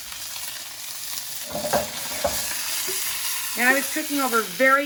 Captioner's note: meat sizzles in pan